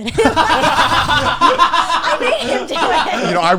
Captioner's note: all laughing